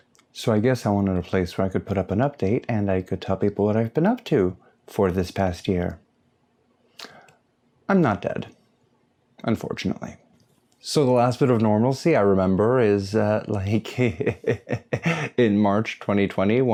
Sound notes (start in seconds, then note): 13.9 burnout giggle